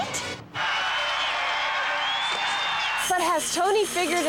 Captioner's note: cheering